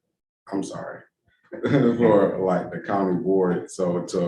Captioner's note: chuckles